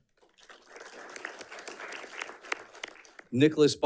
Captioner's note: audience clapping